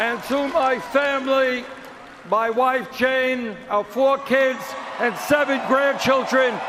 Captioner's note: cheers and Applause